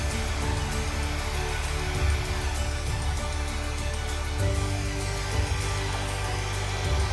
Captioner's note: machine whooshing